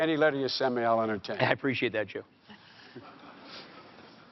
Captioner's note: laughter